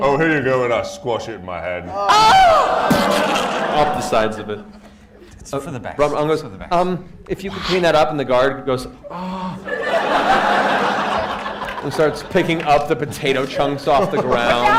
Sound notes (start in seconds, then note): 2.6 squelch